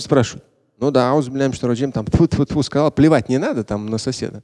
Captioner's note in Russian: говорит на арабском